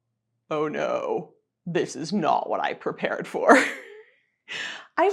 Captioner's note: chuckling